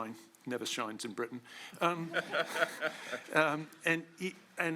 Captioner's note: laughter